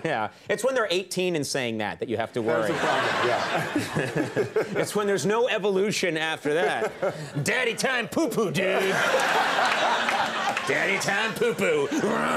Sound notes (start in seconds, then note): 4.4 laughs; 8.5 audience laughing